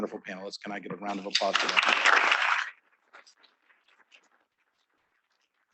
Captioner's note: students clapping